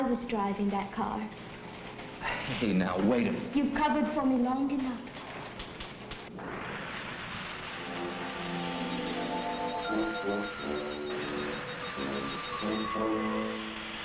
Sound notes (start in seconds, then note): 7.8 acetylene torch hissing; 11.3 flame burning